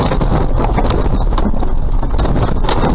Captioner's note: tires squealing; thumping